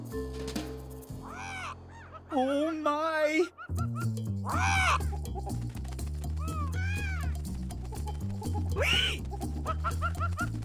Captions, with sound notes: Wee! (Cawing) Whoa, help, help! (Popping) Ah!